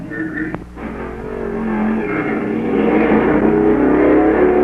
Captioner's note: engine roaring